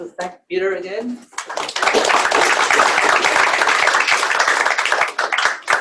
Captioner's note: applause